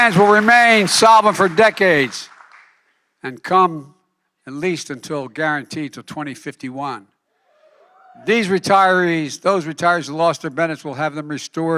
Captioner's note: applause